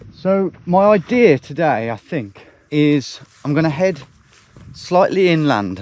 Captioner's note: none